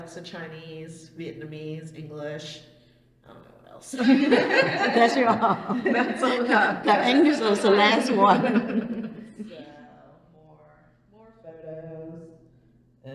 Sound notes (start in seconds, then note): 3.9 laughter